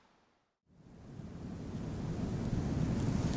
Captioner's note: sound of the wind at the ocean